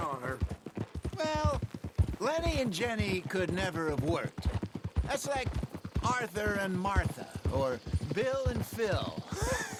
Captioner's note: laughs